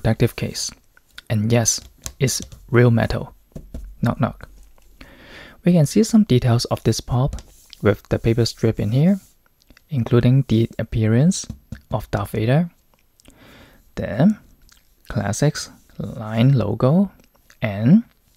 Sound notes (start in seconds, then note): 3.5 knock, knock